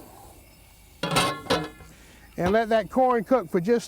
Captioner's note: lid clanking